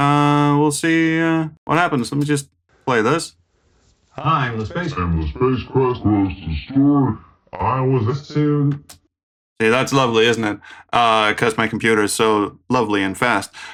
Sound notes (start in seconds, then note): 5.6 voice slows down demonically